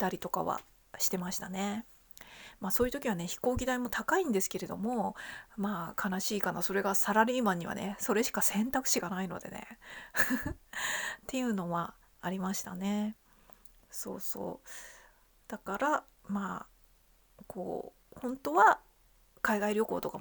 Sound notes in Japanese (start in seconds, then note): 10.2 笑い; 10.7 息をのむ音